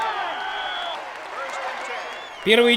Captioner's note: whistle blows; people yelling